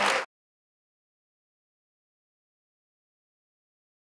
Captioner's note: clapping